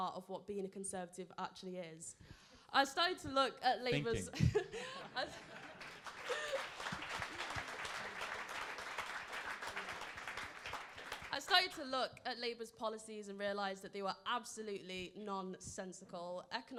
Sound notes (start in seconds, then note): 4.0 laughing; 5.0 crowd applauds